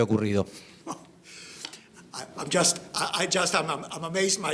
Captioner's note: laughs